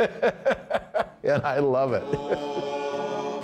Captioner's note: hearty laugh